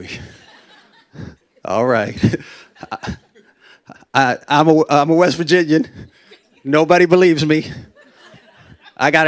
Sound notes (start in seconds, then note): 0.1 laughter; 2.1 laughs; 7.6 laughter